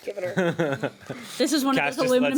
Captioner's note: man chuckles